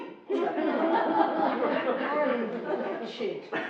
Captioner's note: laughing